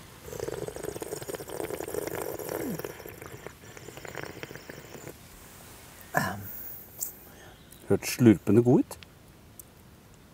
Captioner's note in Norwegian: slurp